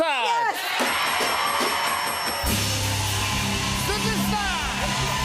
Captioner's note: cheers and applause; bell dinging